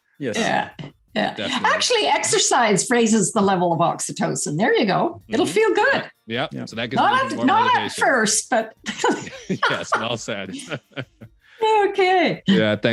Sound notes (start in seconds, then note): 8.8 laughs loudly